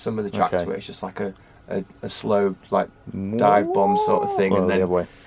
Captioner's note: tone with upward gradient